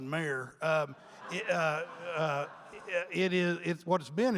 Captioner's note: audience laughing